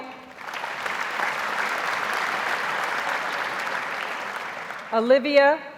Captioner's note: audience applauds